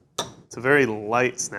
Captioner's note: chocolate snaps